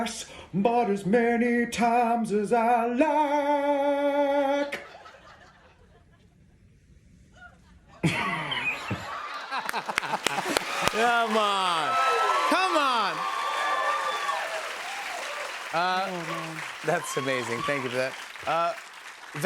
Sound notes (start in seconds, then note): 7.9 laughs; 9.3 laughter and applause; 13.0 cheers and applause